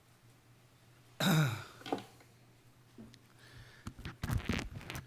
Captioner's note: clears throat